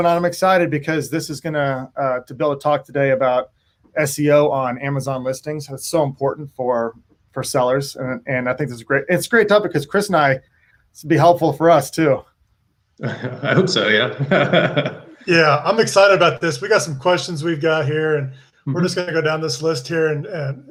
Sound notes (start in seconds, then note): 13.0 laughs